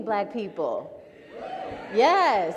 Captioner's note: audience members cheer